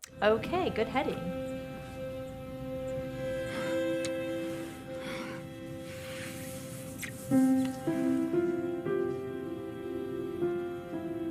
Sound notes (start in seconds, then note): 2.6 soft music; 3.1 character breathing heavily; 6.1 hand swishing